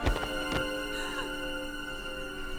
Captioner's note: gasps